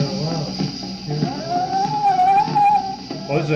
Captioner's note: chanting